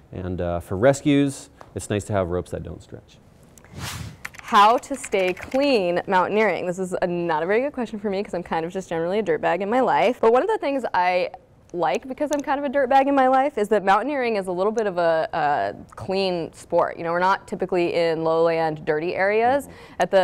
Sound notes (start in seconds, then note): 3.6 air whooshing; 4.2 keyboard clicking